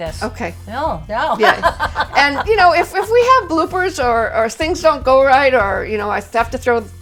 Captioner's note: laughter